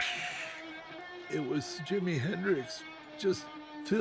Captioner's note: blows air